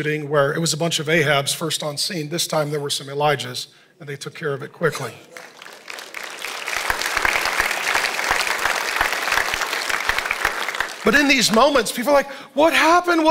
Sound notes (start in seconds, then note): 5.2 congregation applauding